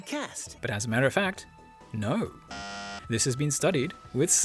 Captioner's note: bzzzt